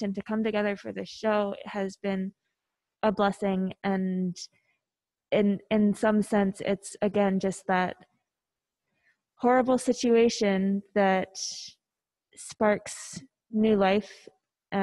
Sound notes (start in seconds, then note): none